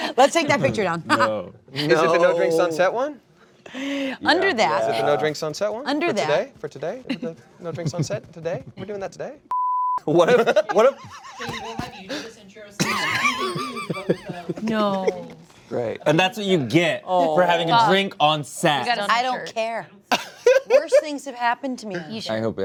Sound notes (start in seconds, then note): 11.9 cast laughs